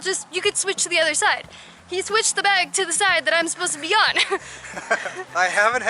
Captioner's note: laughter